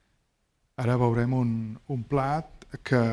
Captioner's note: speaking spanish